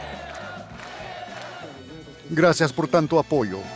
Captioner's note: todos gritando consignas